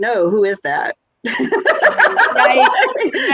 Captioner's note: laughs